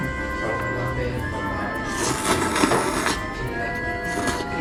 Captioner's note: slurp